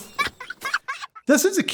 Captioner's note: child laughing